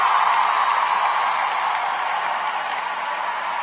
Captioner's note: cheering